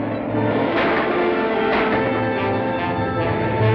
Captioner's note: gunshots